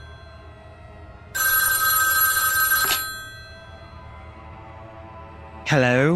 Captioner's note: phone rings